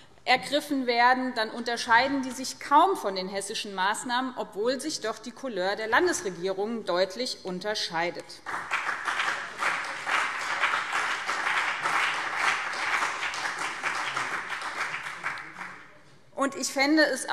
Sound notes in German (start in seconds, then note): 8.4 Beifall BÜNDNIS 90/DIE GRÜNEN und CDU